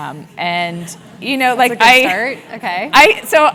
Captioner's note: laugh